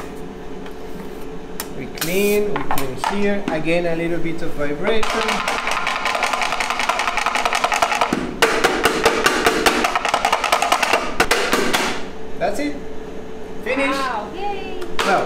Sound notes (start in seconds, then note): 5.0 chocolate mold tapping